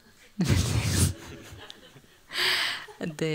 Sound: laughter

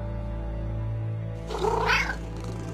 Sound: cat meowing

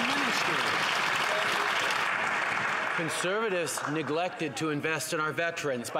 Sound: some Applause

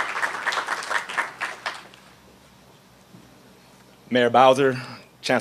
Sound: applause

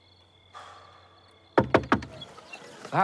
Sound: knocking on door

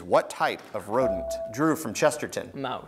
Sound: buzzer beeps

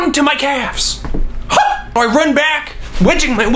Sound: screams

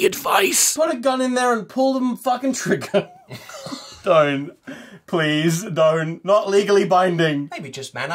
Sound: laughter

